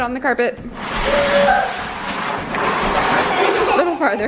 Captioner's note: bin scraping against floor